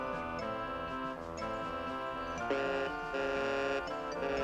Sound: doorbell buzzes

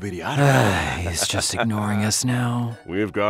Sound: sigh

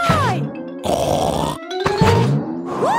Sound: snorts

